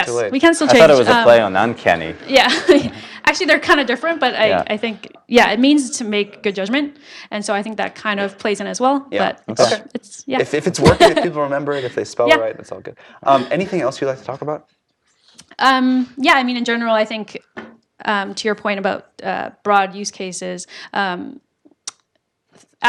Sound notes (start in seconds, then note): 2.6 laugh